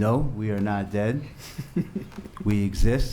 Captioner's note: laughs